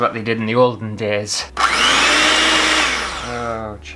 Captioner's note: electric Whisk Noise